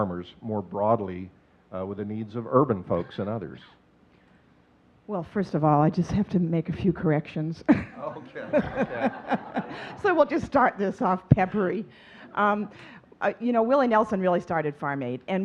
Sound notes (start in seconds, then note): 7.8 laughing; 7.9 audience chuckling